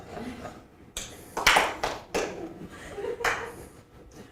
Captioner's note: audience applauding; several claps